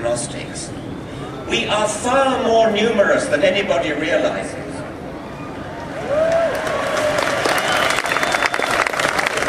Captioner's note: applause